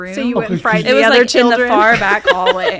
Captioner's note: laughing